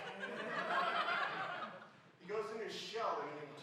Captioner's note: laughing